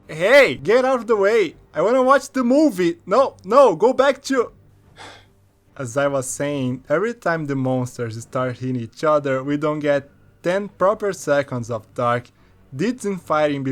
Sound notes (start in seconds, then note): 4.9 sigh